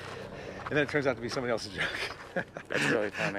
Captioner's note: laughs